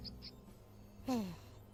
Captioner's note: sigh